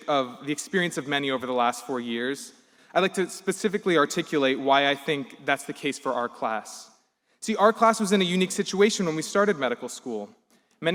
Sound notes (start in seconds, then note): none